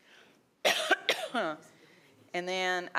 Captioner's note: coughs